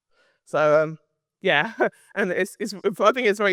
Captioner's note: laughs